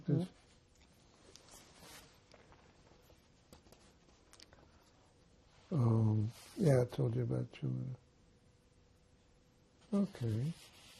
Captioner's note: pauses 6 seconds